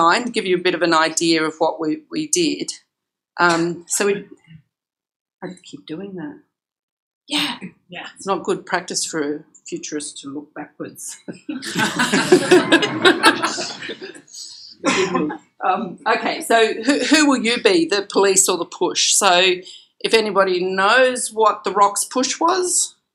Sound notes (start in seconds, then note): 11.3 laughter